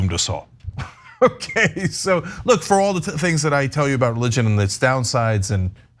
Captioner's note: laugh